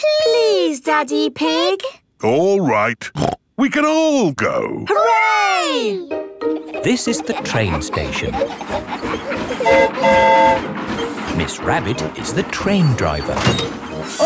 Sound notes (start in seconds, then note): 9.6 train whistle toots